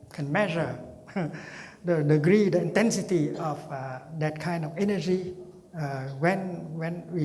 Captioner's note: laughing